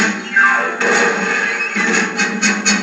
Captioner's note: thud